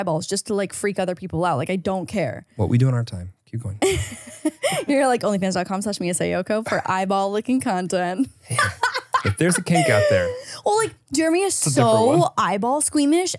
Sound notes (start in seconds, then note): 3.8 laughs; 8.5 laughs